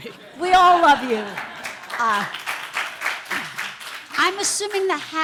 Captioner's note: audience laughter, applause